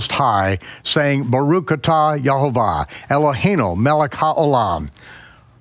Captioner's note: speaks in foreign language